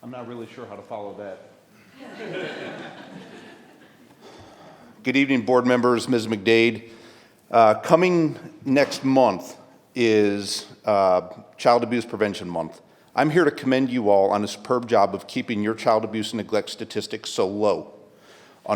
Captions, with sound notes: - I'm not really sure how to follow that. (audience laughing) Good evening board members, Ms. McDade. Coming next month is Child Abuse Prevention Month. I'm here to commend you all on a superb job of keeping your child abuse neglect statistics so low.